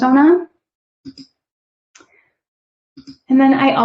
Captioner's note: keyboard clicking